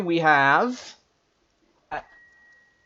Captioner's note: silence